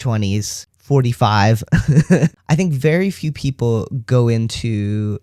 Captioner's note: laugh